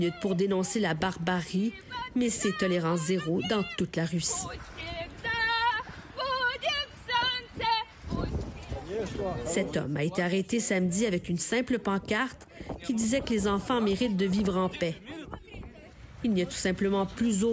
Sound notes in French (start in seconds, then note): 6.4 chant de protestation